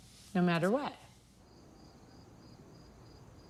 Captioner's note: Grilos cantando